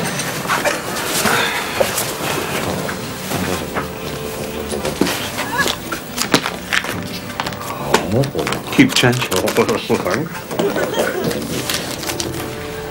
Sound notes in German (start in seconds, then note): 10.2 Kichern